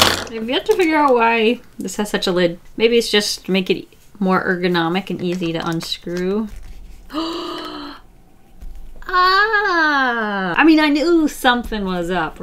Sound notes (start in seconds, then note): 7.0 gasps